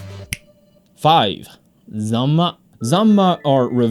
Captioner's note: fingers snap